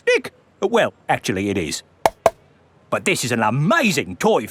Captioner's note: taps